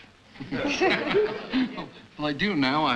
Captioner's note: laughter